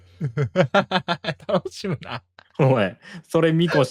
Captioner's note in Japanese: 笑い